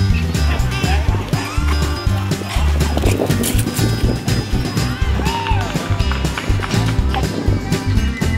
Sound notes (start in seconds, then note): 4.9 crowd cheers and applauds